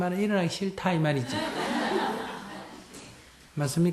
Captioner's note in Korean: 청중 웃음